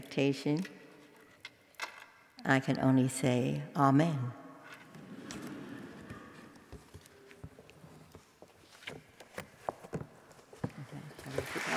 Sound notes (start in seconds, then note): 7.3 laugh; 11.3 applause